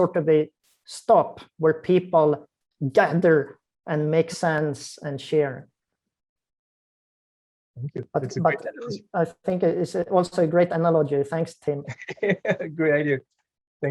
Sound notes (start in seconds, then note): 11.9 chuckles softly